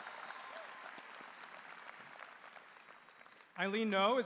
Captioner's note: applause